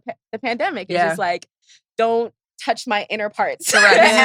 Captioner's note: laughs